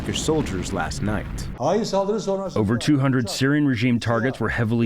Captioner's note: through translator